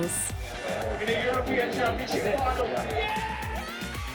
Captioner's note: whistle blows; applause; ear-splitting cheers